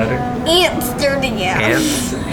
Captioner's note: laughs